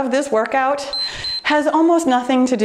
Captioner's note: timer beeps